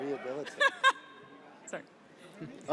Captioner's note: laughs